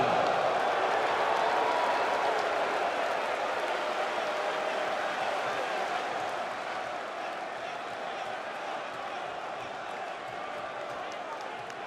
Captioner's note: crowd cheering